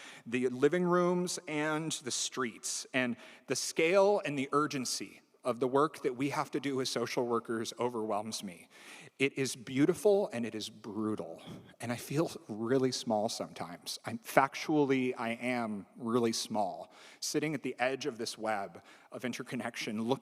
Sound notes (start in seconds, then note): none